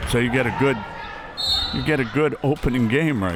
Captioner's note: whistle